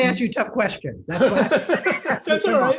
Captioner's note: laughter